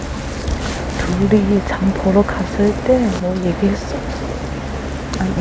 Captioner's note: whispers